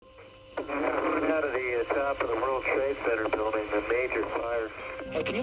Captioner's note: radio chatter